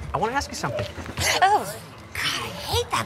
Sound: Julie gasps

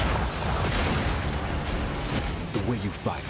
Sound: loud boom

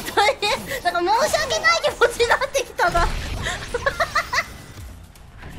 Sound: laughing

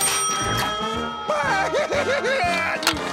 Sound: dinging; crying

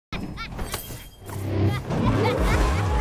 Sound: evil laughter

